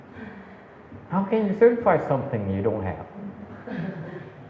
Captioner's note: audience laughs